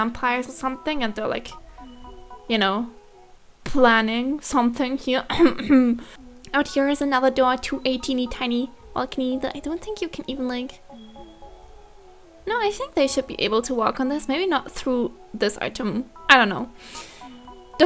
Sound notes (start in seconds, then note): 5.3 non-suspicious throat clearing